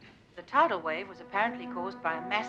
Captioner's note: radio Announcer